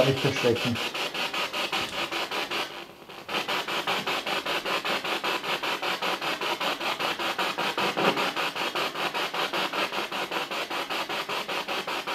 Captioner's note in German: Noise of the spiritbox in the background